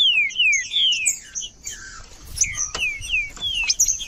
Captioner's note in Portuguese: trinca ferro cantando